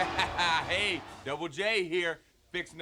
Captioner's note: laughs